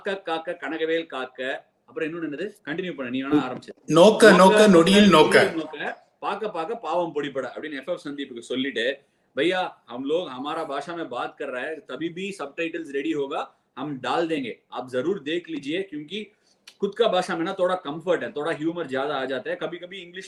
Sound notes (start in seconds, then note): 9.1 speaks in Hindi